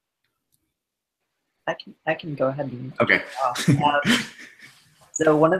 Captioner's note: laughs